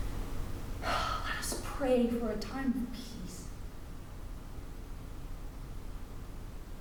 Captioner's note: sigh